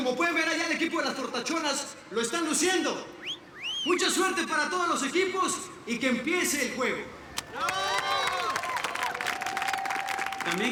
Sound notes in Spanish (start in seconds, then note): 3.1 Silbidos; 7.1 Arengas del público